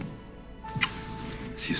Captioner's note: Kisses